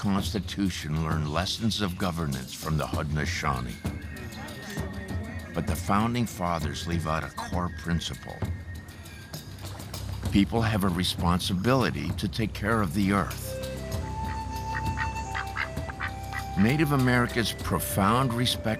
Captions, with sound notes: learn lessons of governance from the Haudenosaunee. But the founding fathers leave out a core principle: people have a responsibility to take care of the Earth. (quacking) Native America's profound respect for nature